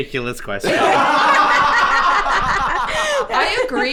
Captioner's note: all laughing